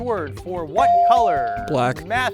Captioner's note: bell ring